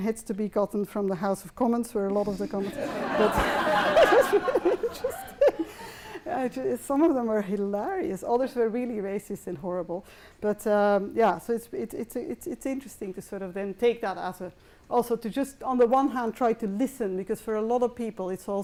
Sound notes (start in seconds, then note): 2.6 laughter